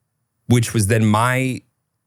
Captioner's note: laughing